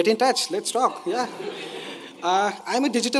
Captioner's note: audience laughing